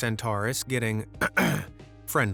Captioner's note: clears throat